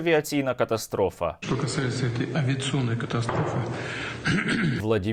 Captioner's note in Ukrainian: кашляє